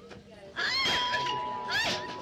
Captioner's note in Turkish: zi̇l sesi̇